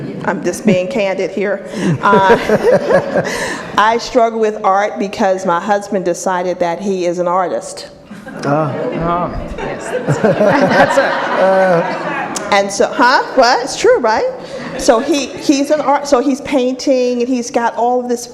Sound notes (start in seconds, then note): 1.8 audience laughs; 9.5 audience laughs